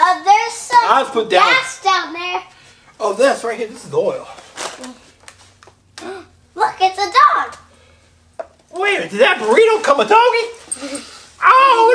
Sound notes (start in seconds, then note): 6.6 gasps